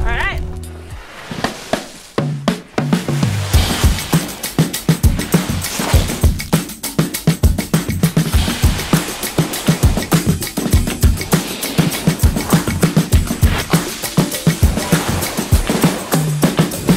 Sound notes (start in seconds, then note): 1.0 drum music; 3.2 snow crunching; 5.3 drum music continues